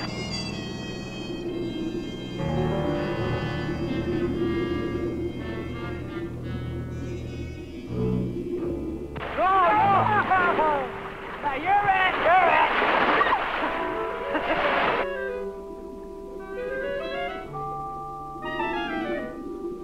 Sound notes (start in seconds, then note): 0.1 suspensful music playing; 9.2 people chattering; 11.7 Jack laughing; 13.1 Mango screaming; 15.0 suspenseful instrumental music